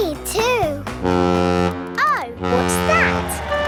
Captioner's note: horn bellowing